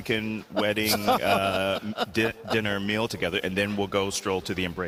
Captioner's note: laugh